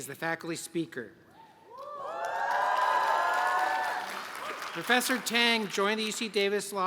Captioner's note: applause